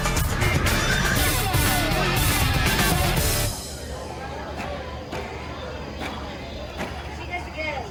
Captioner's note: crowd Talking